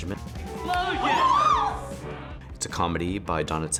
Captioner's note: group yelling